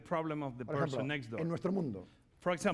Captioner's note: speaking spanish